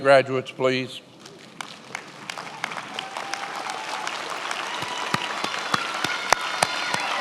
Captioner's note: attendees applauding and cheering